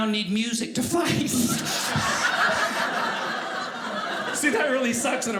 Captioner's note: audience laughing